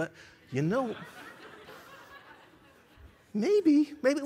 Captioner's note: laughter